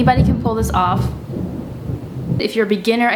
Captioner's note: thunder in the background